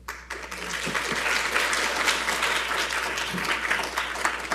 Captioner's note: audience applauding